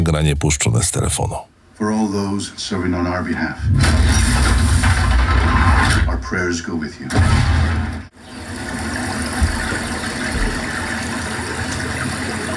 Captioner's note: film Sample Audio